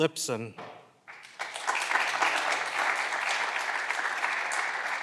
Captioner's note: clapping continues